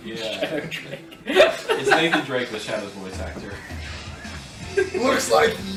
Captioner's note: laughs